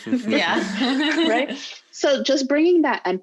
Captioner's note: laughing loudly